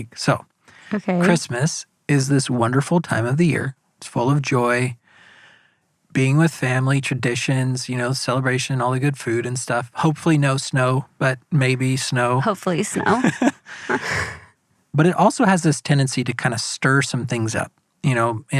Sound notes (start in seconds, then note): 12.8 laughs